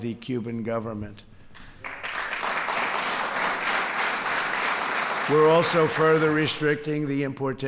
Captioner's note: applause